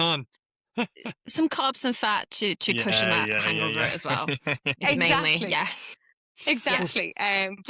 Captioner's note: laughs